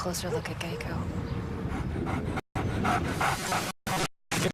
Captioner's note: dog panting